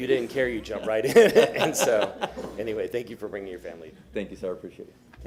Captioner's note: laughter